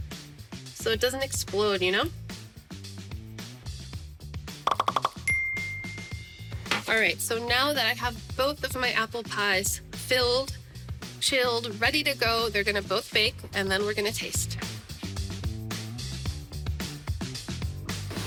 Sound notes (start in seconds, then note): 4.6 popping